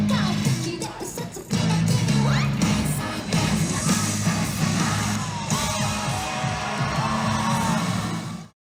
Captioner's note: cheering